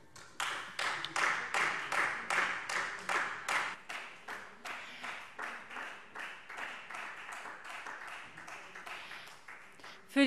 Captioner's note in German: Beifall Freie Demokraten